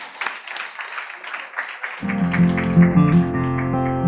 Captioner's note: audience applauds; gentle guitar music